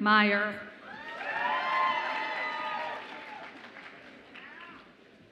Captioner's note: audience applauds and cheers